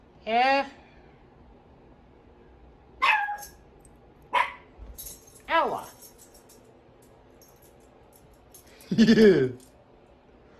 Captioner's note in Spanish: Ella se ríe